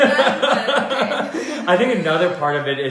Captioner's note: laughter